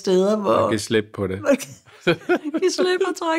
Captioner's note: laughs